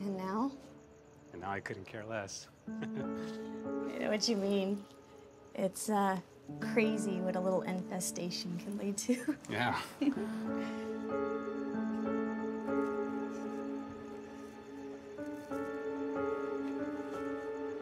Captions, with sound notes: - And now? - And now, I couldn't care less. (chuckles) - I know what you mean. It's, uh, crazy what a little infestation can lead to. - Yeah. (Keely giggles)